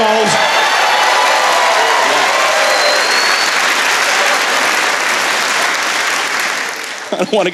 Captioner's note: cheering